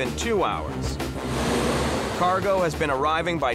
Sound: engine revving

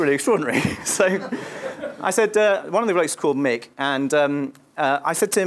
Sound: laugh

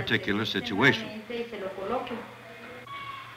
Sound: speaking Spanish

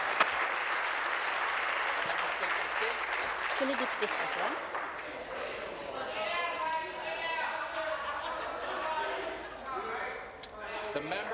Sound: applause

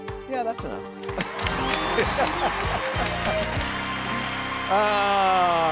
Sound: audience applauds

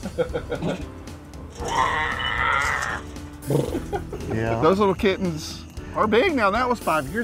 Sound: growling

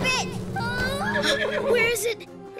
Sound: horse neighs

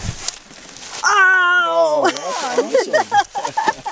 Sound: laughing

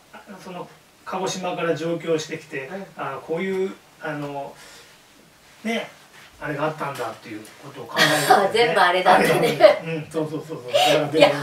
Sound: laughs

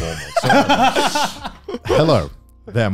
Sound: laughing

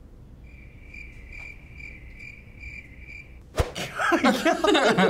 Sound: crickets chirping; both laugh

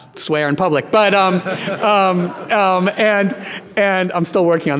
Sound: audience laughing

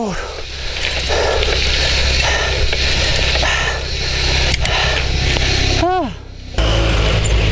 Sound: deep Breathing

